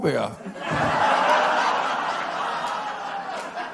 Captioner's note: laughter